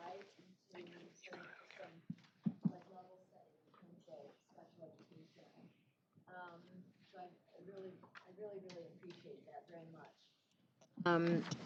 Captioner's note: whispering